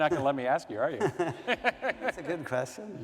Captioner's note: laughter